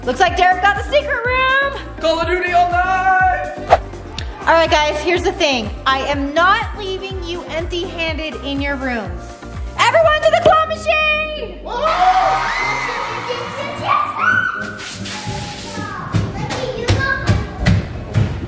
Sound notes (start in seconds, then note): 11.6 all cheering; 15.8 feet tapping